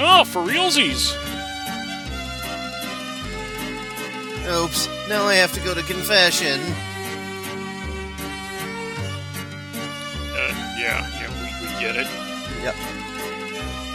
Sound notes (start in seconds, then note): 10.5 quietly